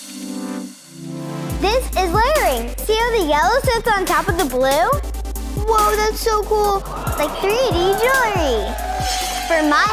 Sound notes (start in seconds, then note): 6.6 shimmering music sound; 6.7 crowd gasping sound